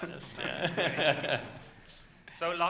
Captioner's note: laughs